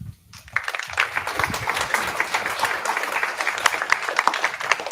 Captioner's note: applause